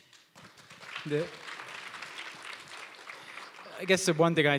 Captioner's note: applause